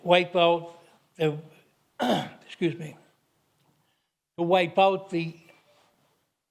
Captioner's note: clears throat